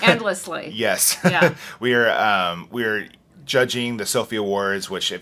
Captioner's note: laughs